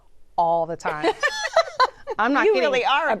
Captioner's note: laughter